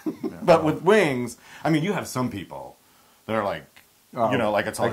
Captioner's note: laugh